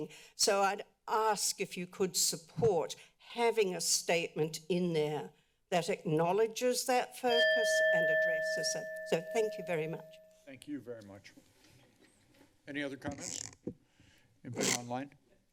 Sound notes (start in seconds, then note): 7.3 timer bell rings